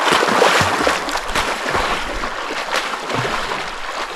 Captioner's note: water splashing